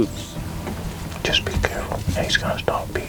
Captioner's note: whispering